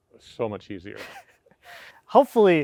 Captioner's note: chuckles